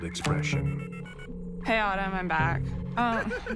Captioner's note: phone chirping